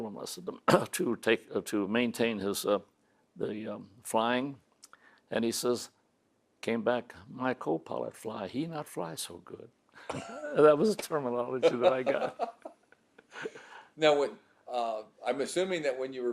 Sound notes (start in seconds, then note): 11.6 both laughing